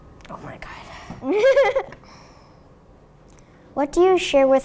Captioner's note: laughs